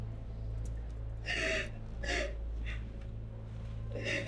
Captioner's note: sobs